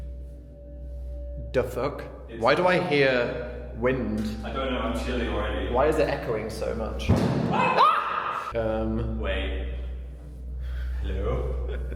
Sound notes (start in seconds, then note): 7.7 both shout; 11.6 Dan chuckles